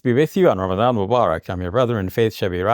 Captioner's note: speaks in Arabic